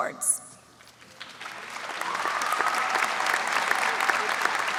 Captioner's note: audience applauds